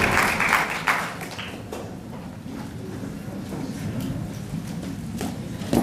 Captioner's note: applause